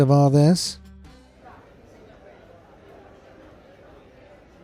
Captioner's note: people chattering